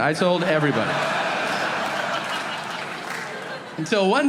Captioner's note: audience laughing